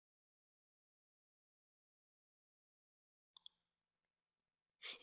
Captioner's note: pause